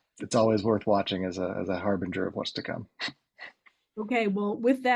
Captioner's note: chuckles